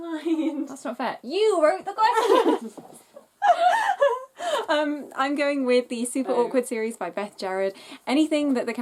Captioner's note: laughs